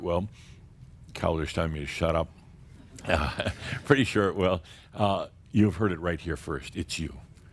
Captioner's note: a few chuckles